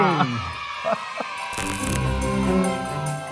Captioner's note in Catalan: crits d'eufòria